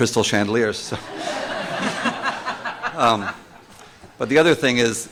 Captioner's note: laughter